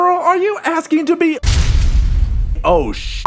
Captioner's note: boom